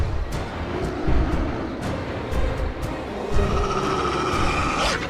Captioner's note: Eric growling